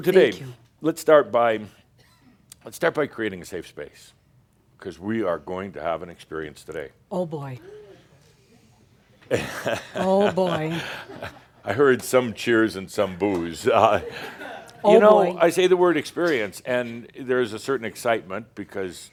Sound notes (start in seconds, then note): 7.6 someone says, “Woo!” and someone else says “Better be careful!”; 9.2 Adamus chuckles